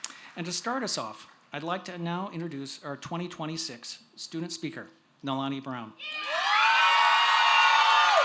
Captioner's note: cheers